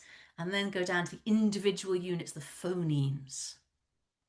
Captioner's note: none